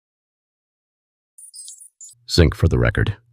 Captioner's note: beeping